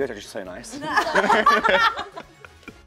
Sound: laughs

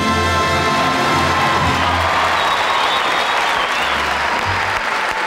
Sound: audience clapping

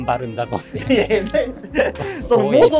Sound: laughing

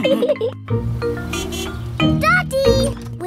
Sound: horn honks

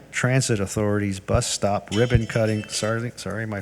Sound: phone rings

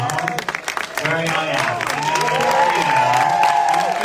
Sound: audience applauding

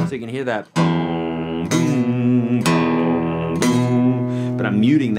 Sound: humming tone

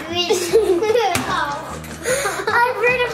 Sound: laughing

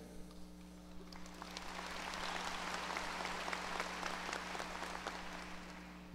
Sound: audience applause

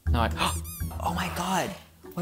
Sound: rubber duck squeezes

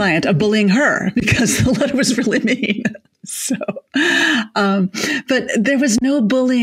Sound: chuckles

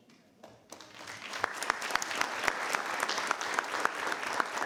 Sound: all clapping

